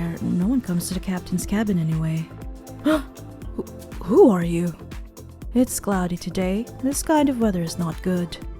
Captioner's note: gasp